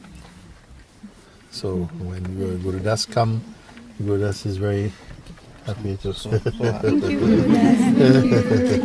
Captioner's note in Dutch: gelach